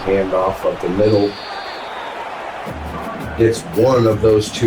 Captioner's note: crowd Noises